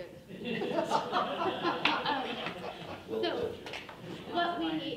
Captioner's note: people laughing